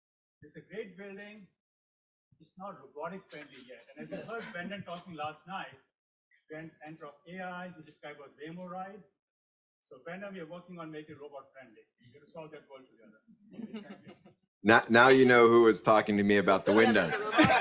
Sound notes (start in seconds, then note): 13.6 panelists laugh